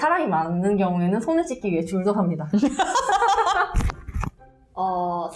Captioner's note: laugh